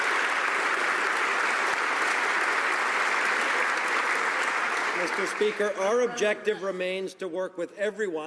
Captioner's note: some Applause